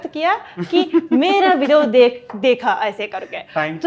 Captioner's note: chuckles